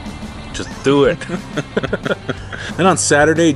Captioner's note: laughing